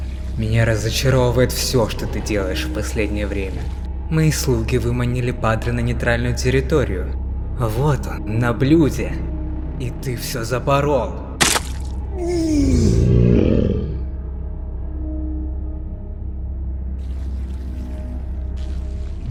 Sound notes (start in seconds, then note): 11.4 sound of flesh; 12.1 groan with a growl